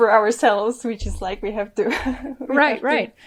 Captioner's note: laughs